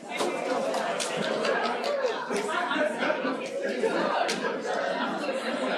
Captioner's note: background chatter